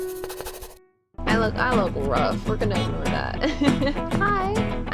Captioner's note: giggle